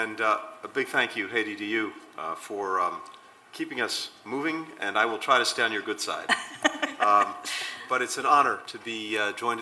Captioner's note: laughter